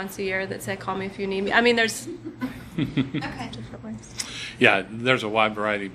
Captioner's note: laughs